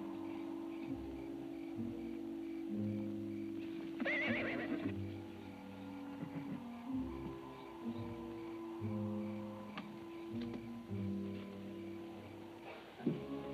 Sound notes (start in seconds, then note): 3.9 horse whinnies; 5.7 tense music